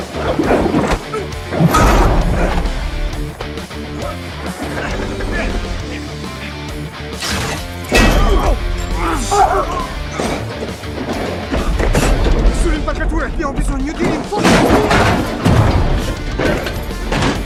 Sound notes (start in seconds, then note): 7.3 guard 2 grunts